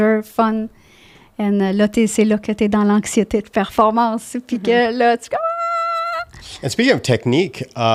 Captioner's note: in french